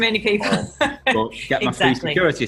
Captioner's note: woman laughing